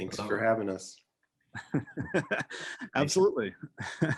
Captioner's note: laughing